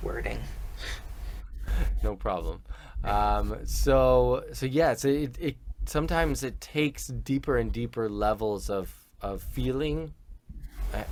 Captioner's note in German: lacht